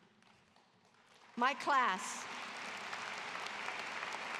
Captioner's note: applause